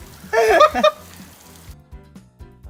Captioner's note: laughter